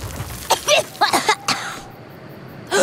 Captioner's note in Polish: kaszel